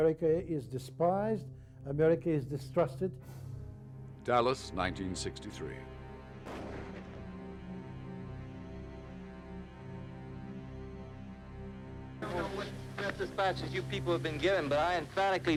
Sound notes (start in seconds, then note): 4.8 rifle fires; 7.9 ominous music